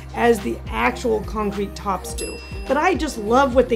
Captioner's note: bell dinging